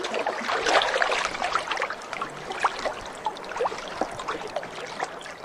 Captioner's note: river water flowing softly